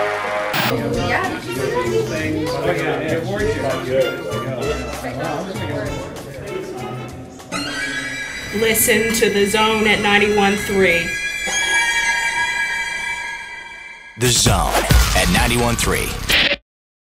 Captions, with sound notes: (hallway chatter) (spooky violin) Listen to The Zone at 91 3. The Zone at Ninety-One Three